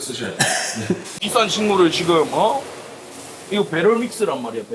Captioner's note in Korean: 목을 가다듬음